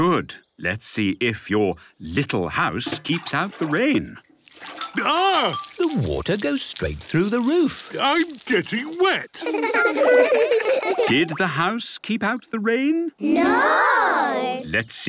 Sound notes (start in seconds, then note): 9.3 laughter